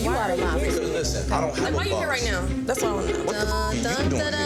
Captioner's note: overlapping chatter